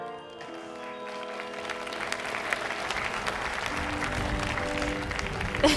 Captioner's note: audience applauding